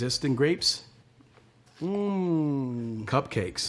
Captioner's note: moans; slurps and swishes wine